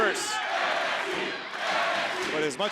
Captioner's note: crowd chants